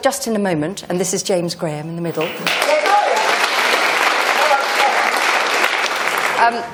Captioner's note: applause